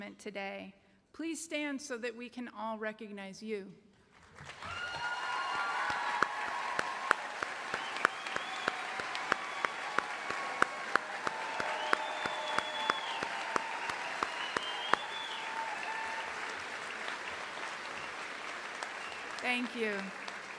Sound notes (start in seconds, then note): 7.5 cheering and applause